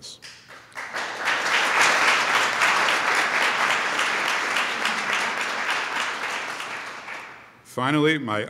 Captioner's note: applause